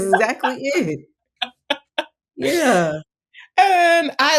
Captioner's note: laughing